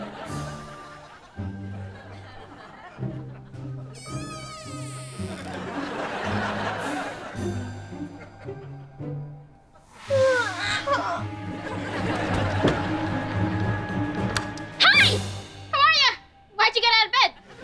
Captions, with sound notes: [squeaking] [yawning] Hey! How are ya?! Why'd you get outta bed?